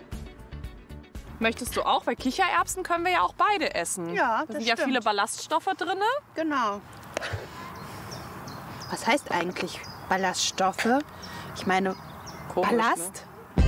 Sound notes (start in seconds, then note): 6.6 birdsong